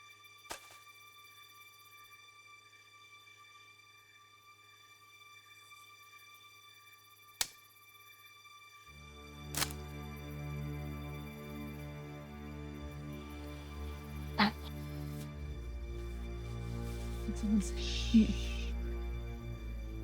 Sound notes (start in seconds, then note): 0.1 thud; 6.9 twigs snap